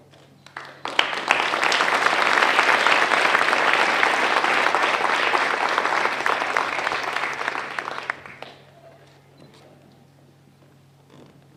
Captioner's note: applause